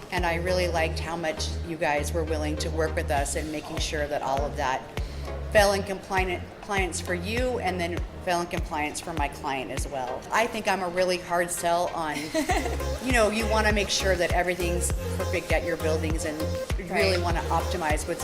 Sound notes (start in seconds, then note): 12.1 laughs